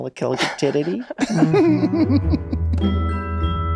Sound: laughing

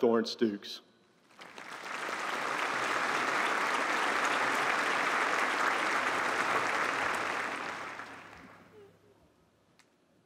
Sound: applause

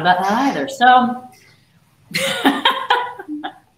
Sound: laughs

